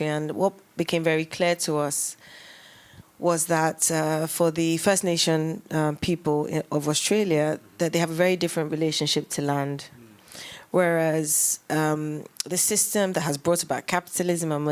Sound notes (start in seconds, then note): none